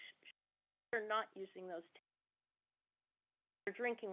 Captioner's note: audio cuts off